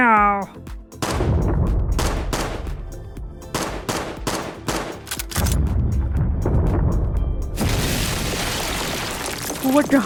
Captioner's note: explosions